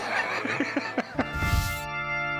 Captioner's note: laugh